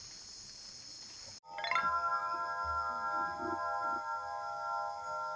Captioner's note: windchimes ringing